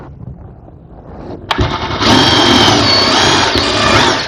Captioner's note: drilling sound